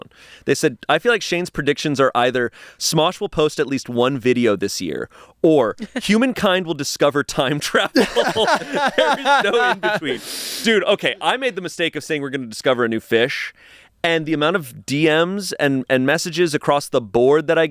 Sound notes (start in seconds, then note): 7.8 everyone laughs